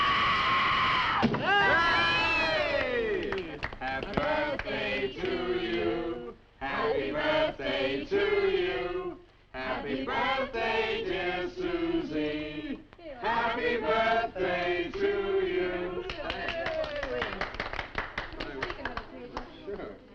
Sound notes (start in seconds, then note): 0.1 Nan screaming; 1.8 people cheering; 16.0 people applauding